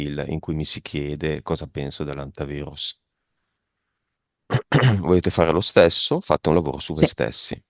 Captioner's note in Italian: schiarire la voce